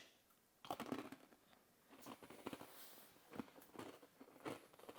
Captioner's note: biscuit crunching